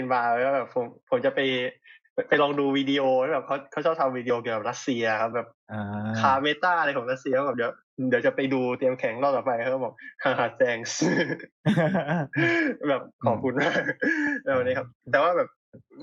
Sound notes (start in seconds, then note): 11.6 laughs